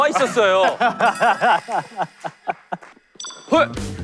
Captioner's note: claps at his illogical claim